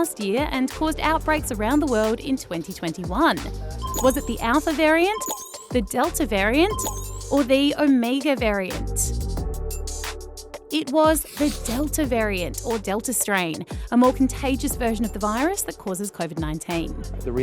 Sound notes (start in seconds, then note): none